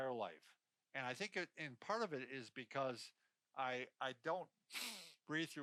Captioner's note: sniffing